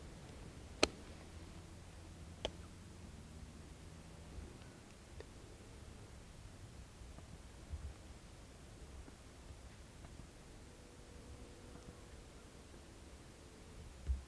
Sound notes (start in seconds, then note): 0.0 light wind blowing